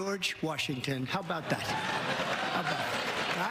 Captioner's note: applause